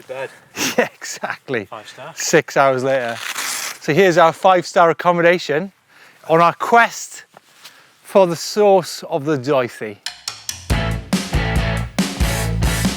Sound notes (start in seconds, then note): 0.6 laughs; 2.9 velcro tears; 10.1 upbeat music